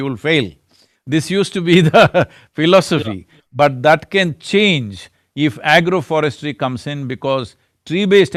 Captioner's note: laughs